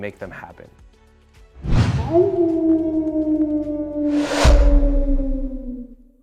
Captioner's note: howl